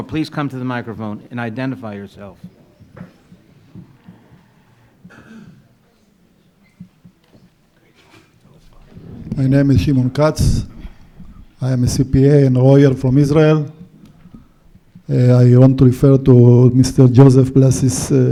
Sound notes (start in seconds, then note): 3.4 crowd murmuring